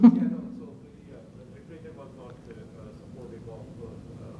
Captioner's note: laughs; faintly speaking